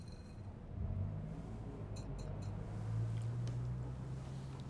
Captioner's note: traffic humming